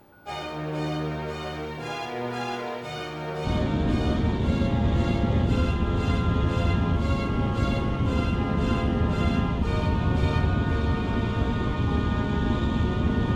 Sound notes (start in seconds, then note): 0.3 intense music; 3.5 craft rumbling